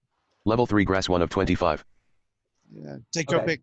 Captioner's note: computer Voice